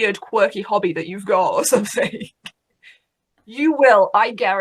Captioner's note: laughs